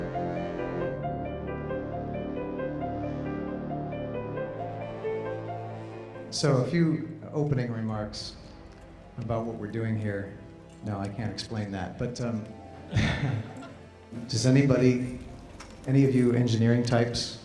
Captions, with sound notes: SO A FEW OPENING REMARKS ABOUT WHAT WE'RE DOING HERE. NO, I CAN'T EXPLAIN THAT. BUT, UM... [ LAUGHTER ] DOES ANYBODY -- ANY OF YOU ENGINEERING TYPES WANT